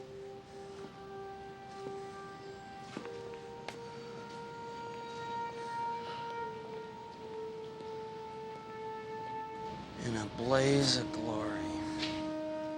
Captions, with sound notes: (footsteps thudding) In a blaze of glory.